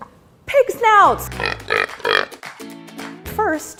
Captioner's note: oinking